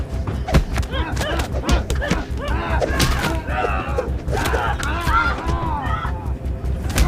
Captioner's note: slapping; both shrieking